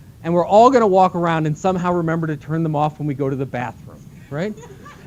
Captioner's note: laughter